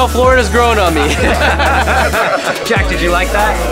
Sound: laughing

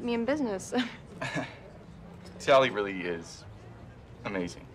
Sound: chuckles

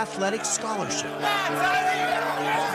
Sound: cheers

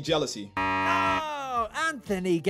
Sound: buzzer beeps

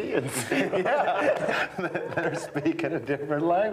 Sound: men laughing

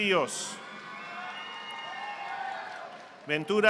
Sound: audience applauding

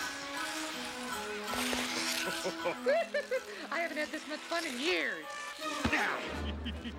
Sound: chuckling

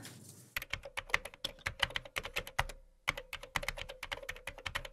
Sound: typing

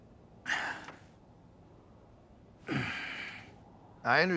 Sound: exhales, grunts

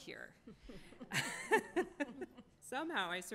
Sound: laughs

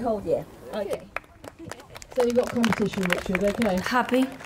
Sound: applause

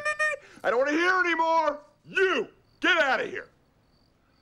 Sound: <i> yelling</i>

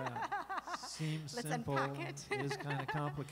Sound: laughing

